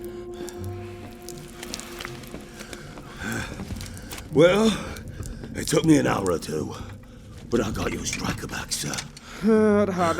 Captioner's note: heavy breathing